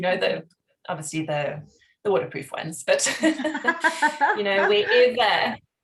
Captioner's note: laughs